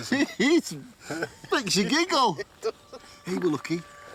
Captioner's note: giggles